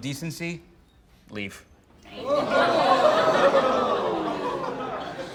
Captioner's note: crowd